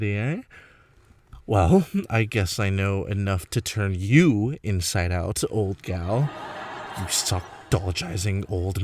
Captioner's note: laughing